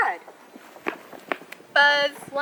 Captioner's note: buzzer Sound